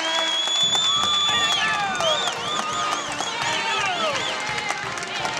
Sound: whistling and applause

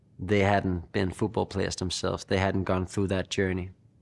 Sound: none

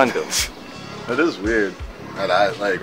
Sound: laughs

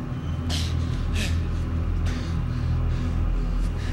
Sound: breathing heavily

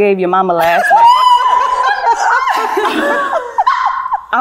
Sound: ladies laughing

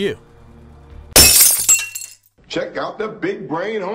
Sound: glass breaking

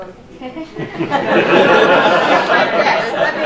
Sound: audience laughing

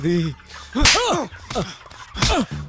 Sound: slap

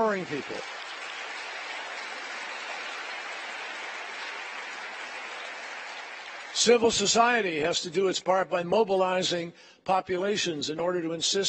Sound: applause

